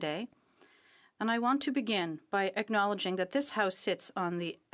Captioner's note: speaking French